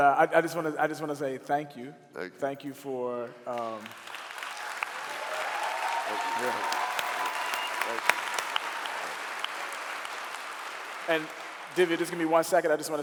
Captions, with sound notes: I just want to say thank you. (clapping) And, Divya, just give me one second.